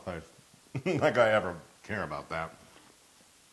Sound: laugh

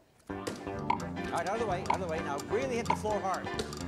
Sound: upbeat game show music; clock ticks down

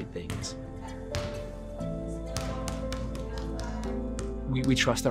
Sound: ball thumping on the floor

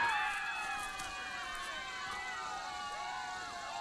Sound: chattering happily

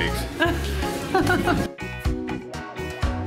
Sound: laughing; tropical music

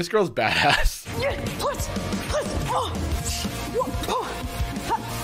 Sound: grunting aggressively

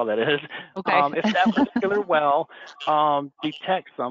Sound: giggles

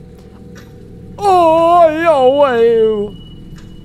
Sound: scared noises

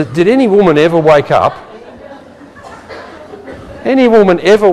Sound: laughing

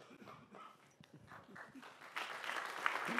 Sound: applause

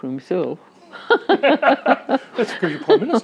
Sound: both laugh

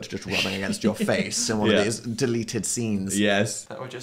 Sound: laughs

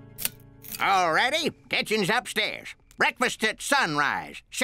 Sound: switch clicks

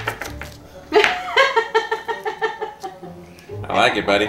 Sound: laughing

